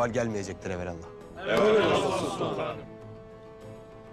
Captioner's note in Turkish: Hep bir ağızdan